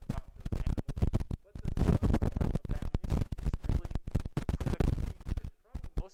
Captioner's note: microphone crackling